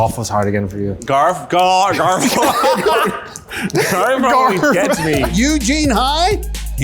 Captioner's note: laughs